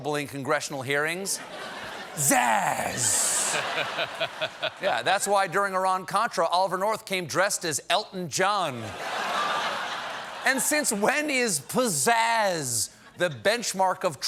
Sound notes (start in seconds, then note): 1.4 laughter; 8.8 laughter